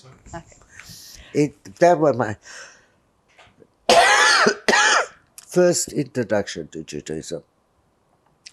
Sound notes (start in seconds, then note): 3.9 coughing